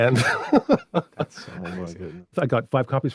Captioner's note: laughing